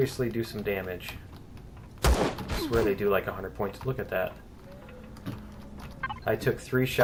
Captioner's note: pistol firing